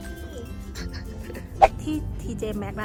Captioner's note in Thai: หัวเราะ